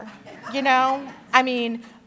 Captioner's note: laughter